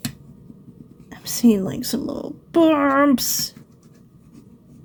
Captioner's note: agitated